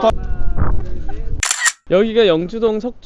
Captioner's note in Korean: 찰칵